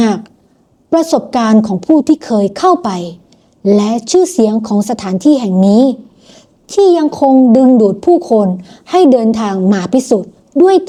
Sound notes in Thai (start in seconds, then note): 6.1 เสียงสูดหายใจ